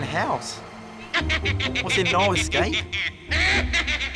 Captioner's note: evil laughter